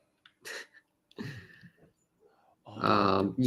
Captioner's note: chuckles